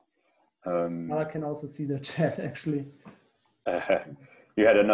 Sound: laughs

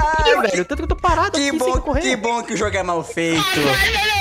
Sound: complaining in the back

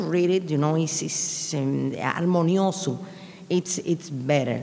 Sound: speaking in a foreign language

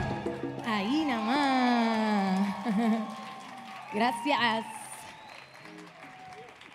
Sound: audience cheering; audience applauding

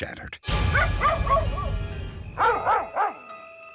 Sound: dogs barking

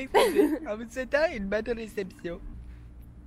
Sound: fake laughter

